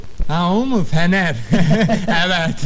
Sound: laughing

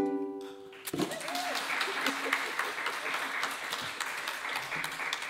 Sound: audience applauding

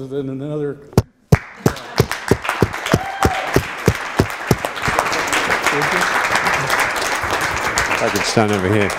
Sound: applause

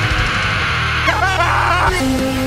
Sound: Peter Screaming Intensifies

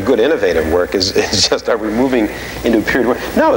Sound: laughing

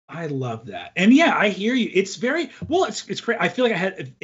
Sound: none

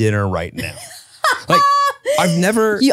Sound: laughs

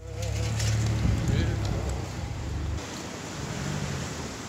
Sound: traffic noise

